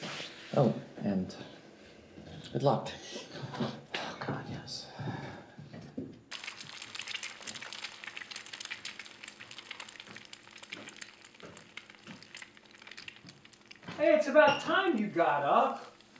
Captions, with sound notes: Oh, and... Good luck. [WHISPERED] Oh god, yes. [FRYING EGGS SOUND] Hey! It's about time you got up.